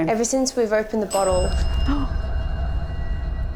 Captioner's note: bell